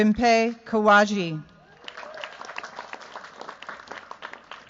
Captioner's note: cheers, applause